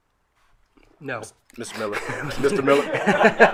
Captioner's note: group laughing